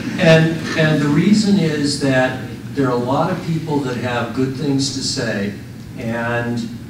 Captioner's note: laughter